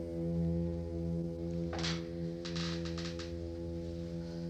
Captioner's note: wood creaking